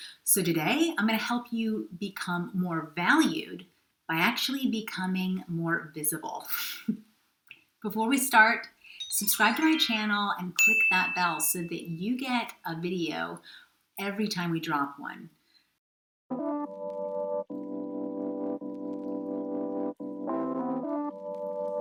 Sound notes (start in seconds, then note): 8.9 subscribe icon chimes; 10.5 bell rings; 16.4 gentle music